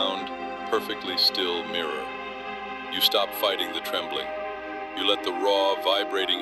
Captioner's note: breath